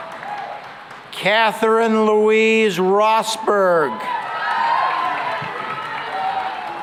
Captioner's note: cheering and applause